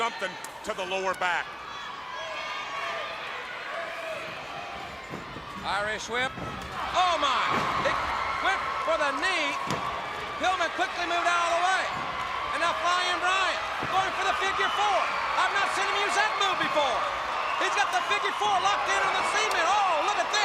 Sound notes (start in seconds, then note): 1.5 crowd chatter; 13.3 crowd chatter; 17.6 crowd cheering